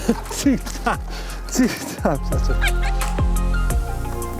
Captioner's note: both laughing